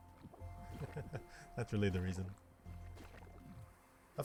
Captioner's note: laugh